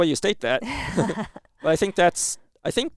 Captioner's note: both laughing